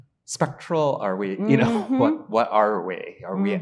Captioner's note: chuckling